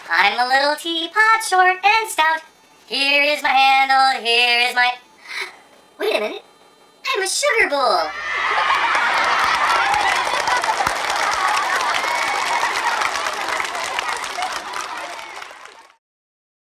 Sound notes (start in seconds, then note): 5.2 gasp